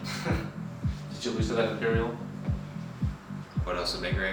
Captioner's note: chuckles